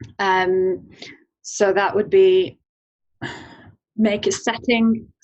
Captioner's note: sighs